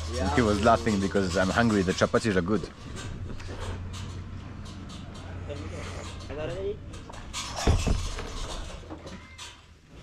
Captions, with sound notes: - Yeah, cool. - He was laughing because I'm hungry. The chapatis are good. -[foreign language]